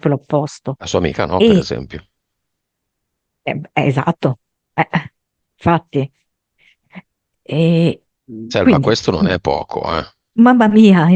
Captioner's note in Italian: schiarire la voce